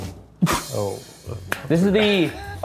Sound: awkward chuckles

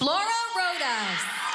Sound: cheering

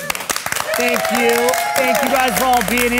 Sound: audience applauding

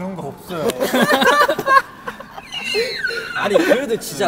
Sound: laughing with a funny face

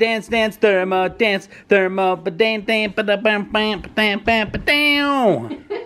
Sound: makes guitar noises

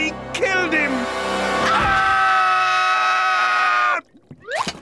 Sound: screaming

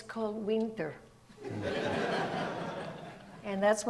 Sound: audience laughs

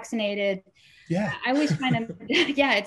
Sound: laughs

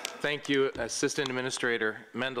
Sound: applause

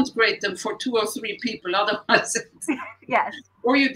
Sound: laughter

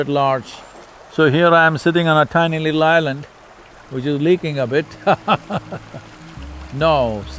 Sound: laughs

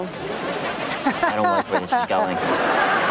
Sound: laughing

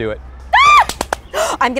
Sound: claps

